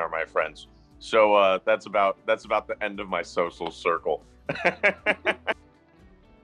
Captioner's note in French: rire